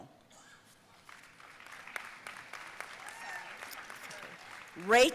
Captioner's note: audience applauding